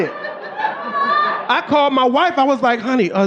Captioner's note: audience laughing